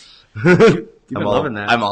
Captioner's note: laughs